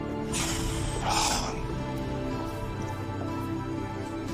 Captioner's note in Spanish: Soplido